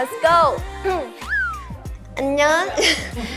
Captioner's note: swoosh~